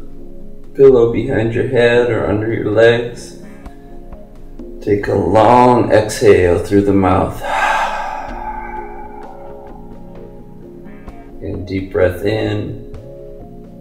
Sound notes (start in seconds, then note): 7.3 exhales deeply